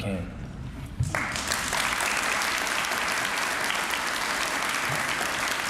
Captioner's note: applause